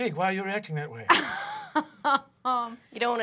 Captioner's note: laughing